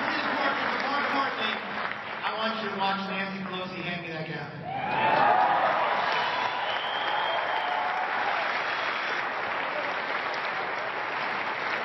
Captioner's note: applause